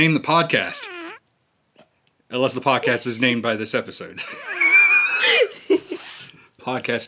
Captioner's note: chuckles